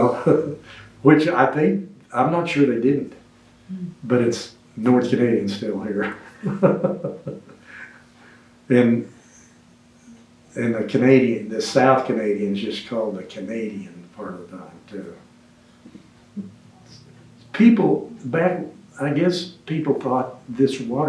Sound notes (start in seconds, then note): 6.0 laughs